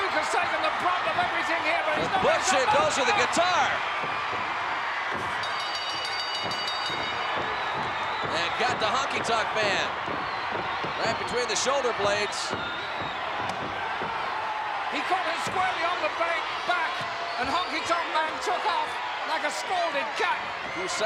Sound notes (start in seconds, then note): 5.4 ring bell dinging